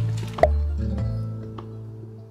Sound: pop

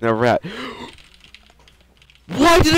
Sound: furious clicking

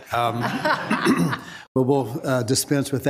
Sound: attendees laughing

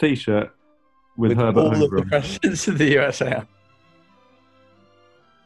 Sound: laughing

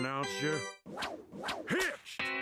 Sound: whooshing

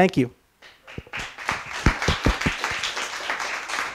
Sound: applause

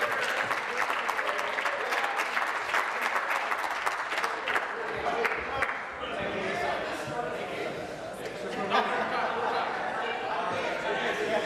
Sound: applause

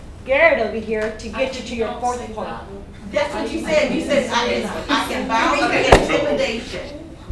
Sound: outbursts continue

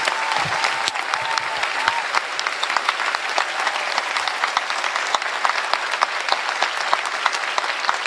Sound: applause

